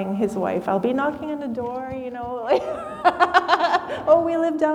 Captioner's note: laughs